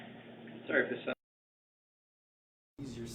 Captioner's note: audio cuts out